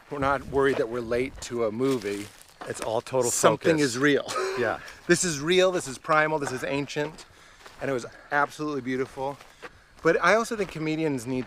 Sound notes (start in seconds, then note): 3.9 laughs